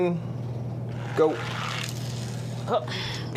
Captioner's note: toy car grating